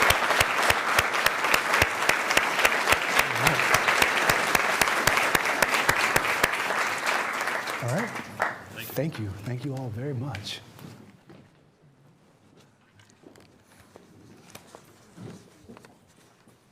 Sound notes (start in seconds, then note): 10.5 applause